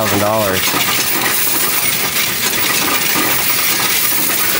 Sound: coins rattling

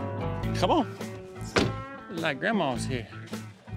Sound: door closes

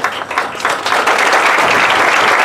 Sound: applause

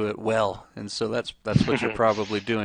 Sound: chuckles

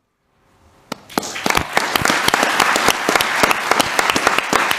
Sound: audience applauding

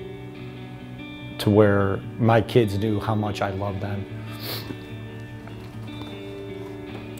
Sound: sniffs

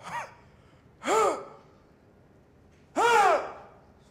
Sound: grunting and yelling gibberish

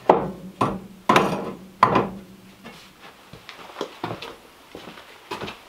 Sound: tools and metal doors thudding

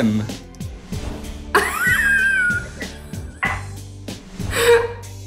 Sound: laughing

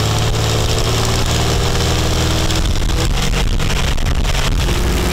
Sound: engine noise continues

